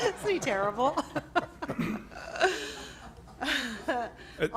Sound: laughs

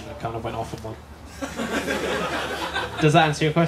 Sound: laughter

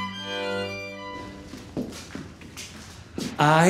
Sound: footsteps thumping

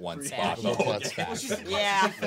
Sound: group murmuring

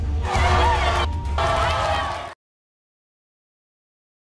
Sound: suspenseful music; audience yelling

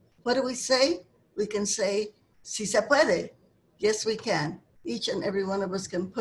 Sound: speaking Spanish

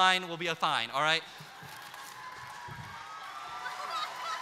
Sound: applause, cheers

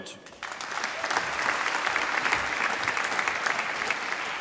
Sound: applause

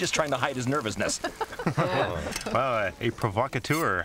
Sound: laughter

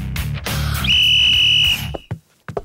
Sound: blows whistle

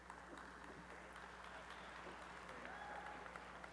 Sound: applause

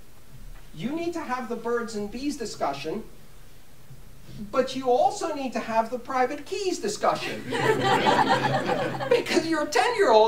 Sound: laughter

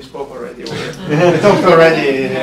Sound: laughter

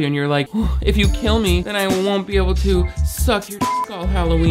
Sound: beep

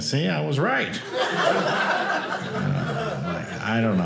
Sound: audience laughing

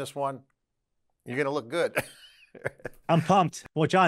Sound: laughs

